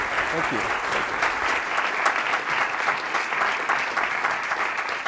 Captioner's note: applause